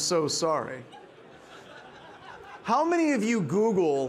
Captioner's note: participants laughing